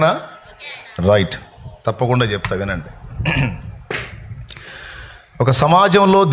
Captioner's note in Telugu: గొంతు సవరించుకోవడం